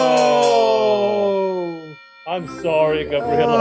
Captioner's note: bell ringing